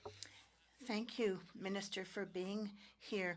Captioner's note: speaking French